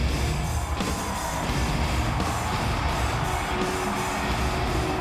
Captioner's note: crowd cheering